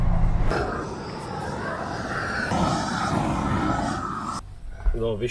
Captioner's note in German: rauschen